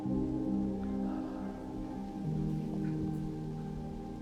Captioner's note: Arawn sighing